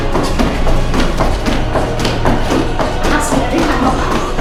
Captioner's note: feet stomping